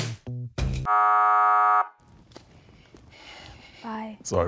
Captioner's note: buzzer rings